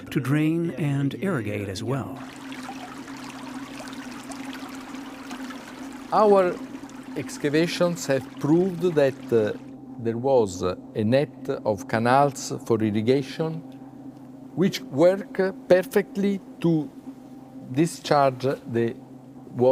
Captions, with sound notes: to drain and irrigate as well. (water rushes) - Our excavations have proved that there was a net of canals for irrigation, which work perfectly to discharge the water